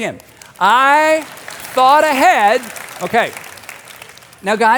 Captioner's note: audience applauding